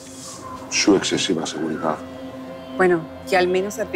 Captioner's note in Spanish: Zumbido del celular